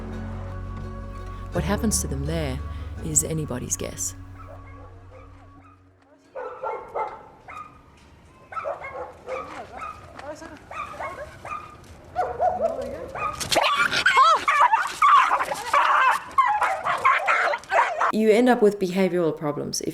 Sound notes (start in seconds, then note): 6.3 dogs barking; 13.1 dog screeching